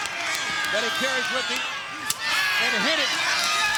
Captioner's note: crowd cheering